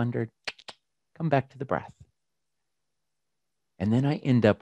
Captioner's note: clicks tongue